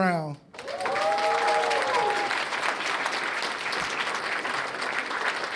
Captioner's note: cheers and applause